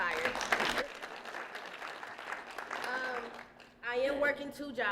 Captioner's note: applause